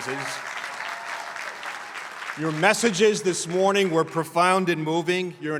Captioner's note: applause